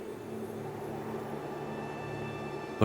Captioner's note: wind blowing